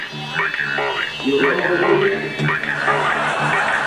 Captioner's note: audience laughs